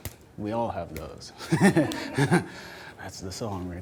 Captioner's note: laughs